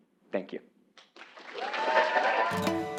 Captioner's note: applause